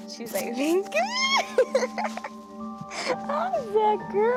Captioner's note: happy squeals